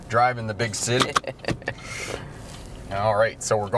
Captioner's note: laughs